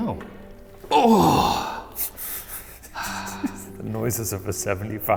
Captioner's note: groans